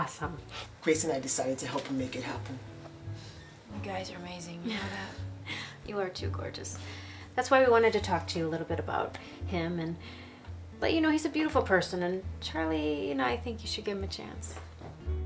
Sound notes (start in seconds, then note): 4.6 Grace chuckles